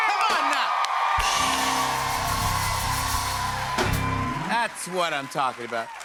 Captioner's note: cheers and applause